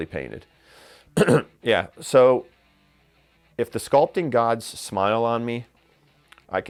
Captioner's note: coughs